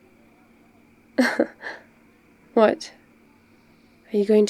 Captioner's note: laughs